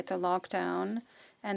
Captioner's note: speaking French